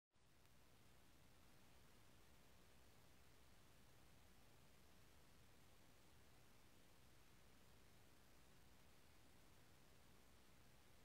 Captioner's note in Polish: szum